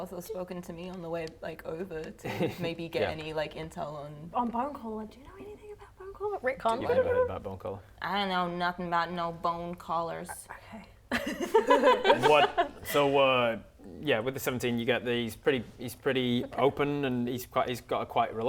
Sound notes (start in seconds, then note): 11.2 laughing